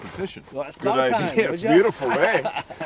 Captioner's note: laughing